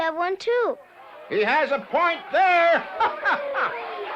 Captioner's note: laughs